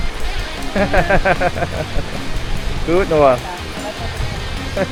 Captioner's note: laugh